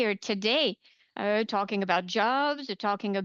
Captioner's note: speaking French